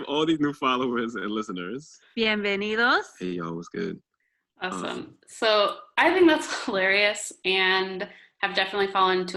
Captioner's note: laughs